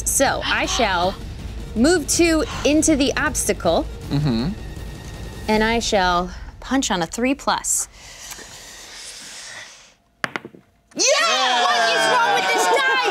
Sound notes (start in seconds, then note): 11.0 cheering